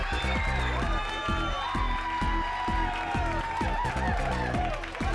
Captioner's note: crowd cheers